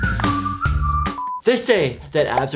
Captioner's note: beep